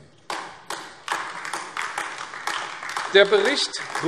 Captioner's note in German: Beifall AfD